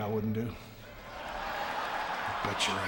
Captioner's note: audience cheering